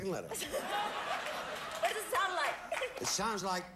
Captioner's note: audience laughing